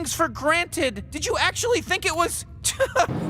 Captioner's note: laughs